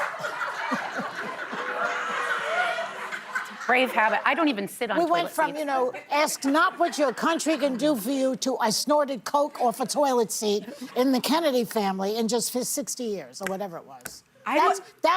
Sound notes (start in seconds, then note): 6.2 laughter